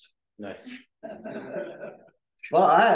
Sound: laughter

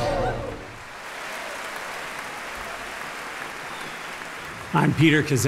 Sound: audience clapping

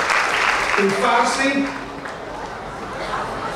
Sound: speaking in foreign language; clapping

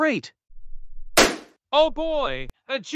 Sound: FX - Balloon Pop

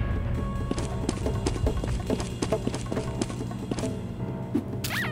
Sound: frantic stepping; sqeak

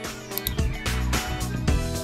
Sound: gentle upbeat music; mouse clicks

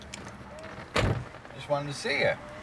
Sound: car door closes

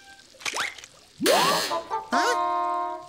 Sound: buzzer sounding

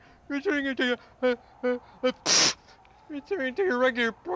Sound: sneezes

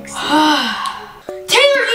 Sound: sigh of relief

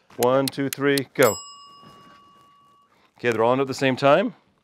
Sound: bell rings once

